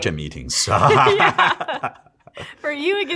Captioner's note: laugh